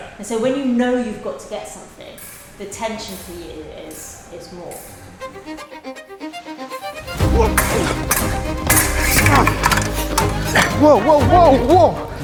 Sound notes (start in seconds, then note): 7.2 epic music; 7.3 swords clashing